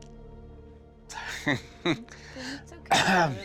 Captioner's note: sad chuckle